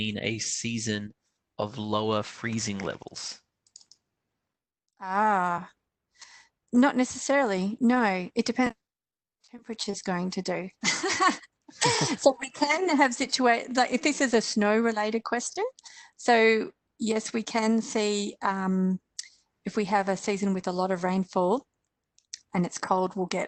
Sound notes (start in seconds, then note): 11.8 laughs